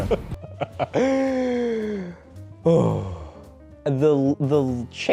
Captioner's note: angry laughing